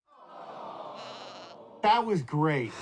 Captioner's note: animals awing